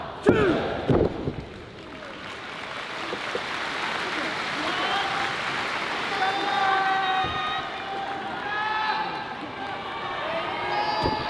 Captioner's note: applause